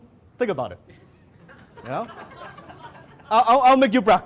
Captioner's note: audience laughs